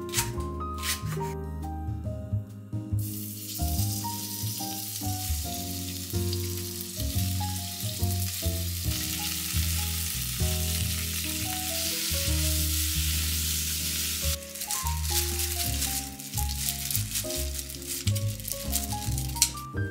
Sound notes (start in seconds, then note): 8.9 the delicious sound resembling the rain